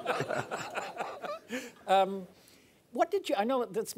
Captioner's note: laughing